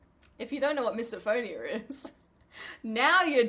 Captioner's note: laughing